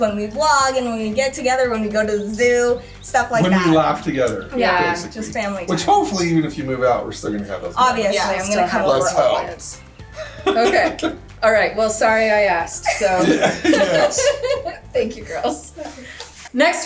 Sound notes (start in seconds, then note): 13.8 laughing